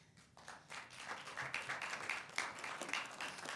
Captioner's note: applause